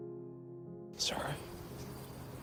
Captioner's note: voiceover